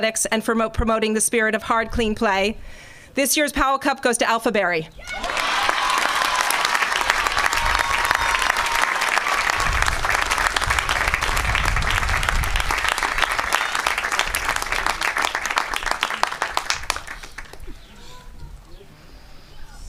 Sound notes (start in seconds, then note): 6.0 applause